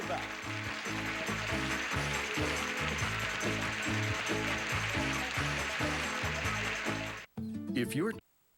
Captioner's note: audience applauding